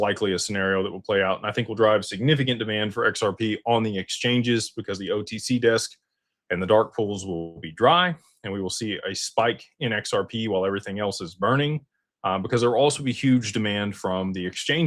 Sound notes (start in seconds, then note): none